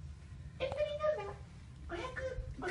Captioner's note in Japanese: 裏声で